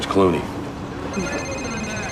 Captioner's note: phone rings